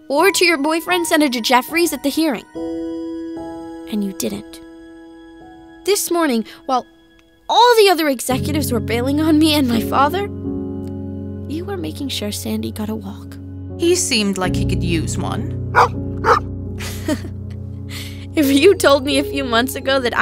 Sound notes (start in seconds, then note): 15.7 Sandy barks; 16.8 laughs